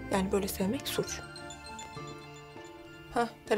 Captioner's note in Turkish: Telefon Çalıyor